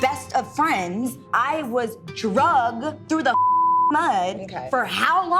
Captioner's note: beep